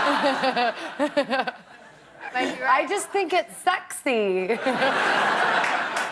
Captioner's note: laughter